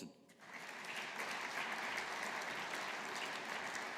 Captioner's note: audience applauding